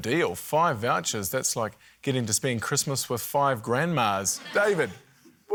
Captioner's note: laughter